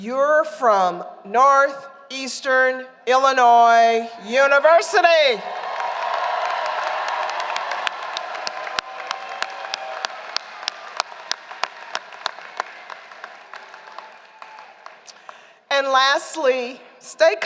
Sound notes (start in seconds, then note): 5.4 applause